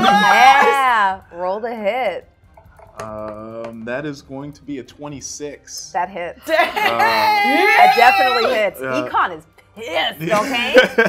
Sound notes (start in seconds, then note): 2.9 dice thudding; 6.9 cheering